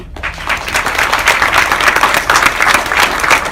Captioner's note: clapping